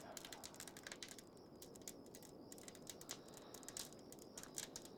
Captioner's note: fire crackles